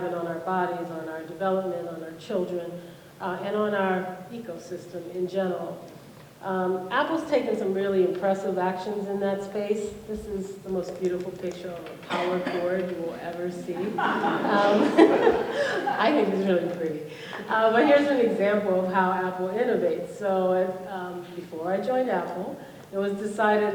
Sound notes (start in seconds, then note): 13.7 laughter